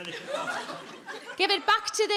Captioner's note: audience laughing